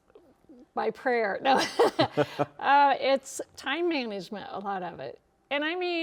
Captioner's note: laughs